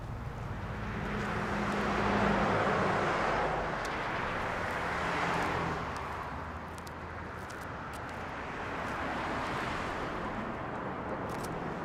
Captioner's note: cars whirring